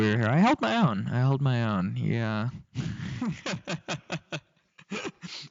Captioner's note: laughing